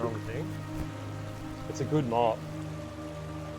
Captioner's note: water rushes